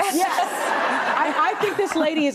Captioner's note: audience laughs